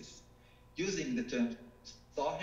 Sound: speaking foreign language

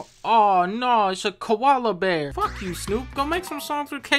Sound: none

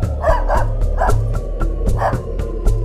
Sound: dog barking in background

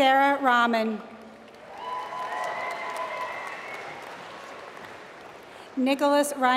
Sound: applause

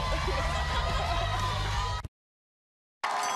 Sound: cheers and applause

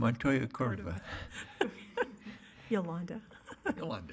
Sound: laughter

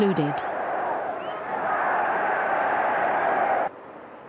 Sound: crowd cheering

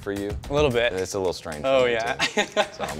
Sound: laughs

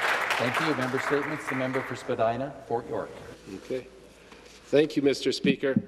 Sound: applause

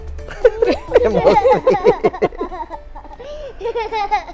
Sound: chuckles

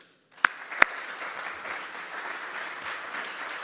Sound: group clapping

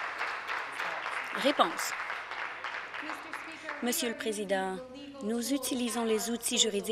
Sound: applause

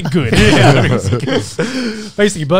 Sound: laughing

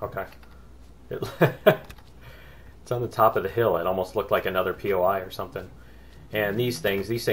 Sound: laughs

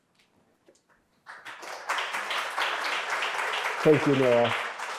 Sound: audience applauding

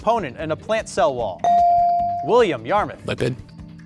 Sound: buzzer pings

